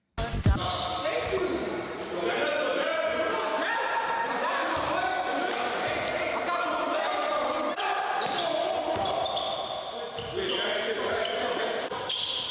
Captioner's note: crowd Cheering